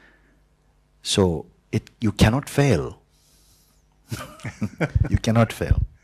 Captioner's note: und Fragender lachen